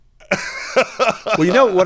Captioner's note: laughs